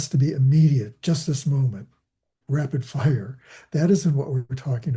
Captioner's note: laughing